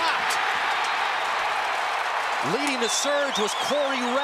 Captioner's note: cheering